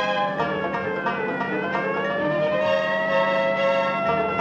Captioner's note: siren wailing